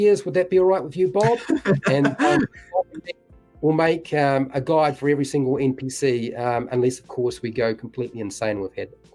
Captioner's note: laughs